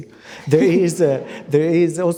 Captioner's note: audience laughs